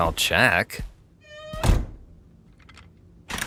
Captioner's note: door creaks